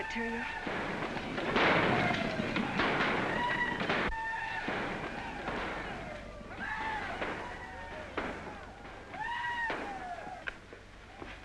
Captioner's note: sounds of chaos & destruction